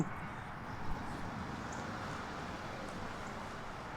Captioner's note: traffic buzzing